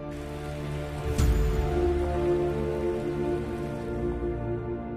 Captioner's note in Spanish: Aplausos